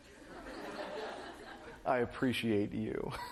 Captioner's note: laughter